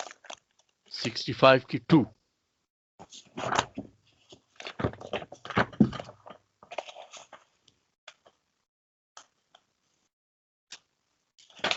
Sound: speaks Arabic

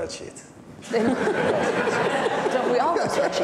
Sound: audience laughing

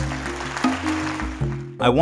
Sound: clapping

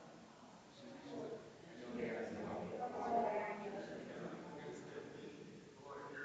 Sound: people chattering distantly continues

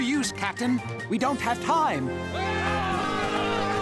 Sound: men yelling

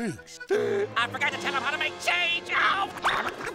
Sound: gasps

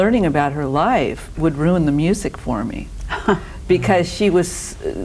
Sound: scoffs

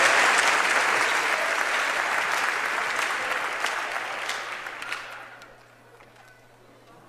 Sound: applause

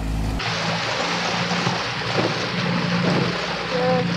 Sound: water splashing

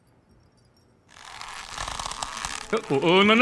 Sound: creaky door tries to open again

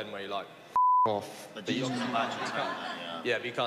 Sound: audience laughs

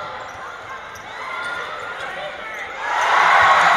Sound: crowd Cheers; cheers

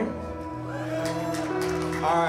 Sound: people cheering

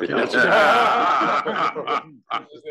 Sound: laugh

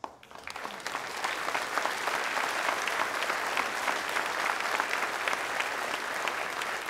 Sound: applause

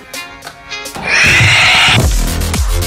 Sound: upbeat dance music continues; demon screaming aggressively; deep rhythmic music

